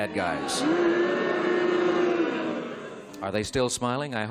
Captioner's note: crowd booing